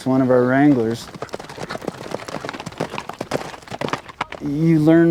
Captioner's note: hooves clattering